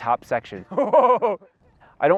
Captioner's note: laughs